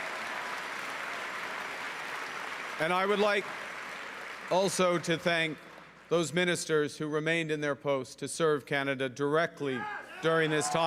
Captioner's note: cheering and Applause